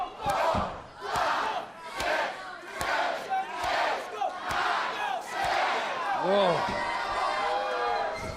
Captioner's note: crowd chatter